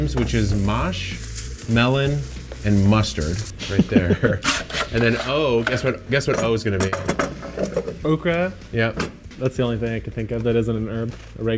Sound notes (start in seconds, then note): 3.5 laughs